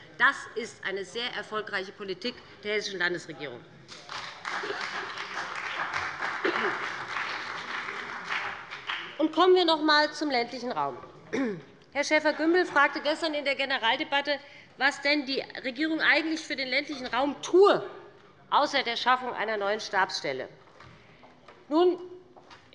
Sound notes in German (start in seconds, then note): 3.9 Beifall bei dem BÜNDNIS 90/DIE GRÜNEN und der CDU